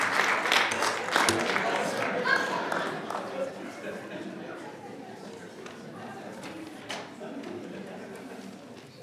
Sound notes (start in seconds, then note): 3.2 audience chattering